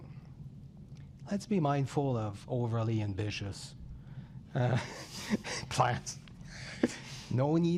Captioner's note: rires